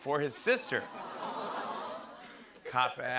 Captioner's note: audience "Awws"